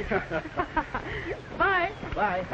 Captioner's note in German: alle lachen